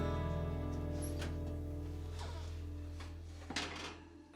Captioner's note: oven creaking